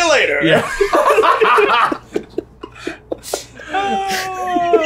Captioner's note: all laughing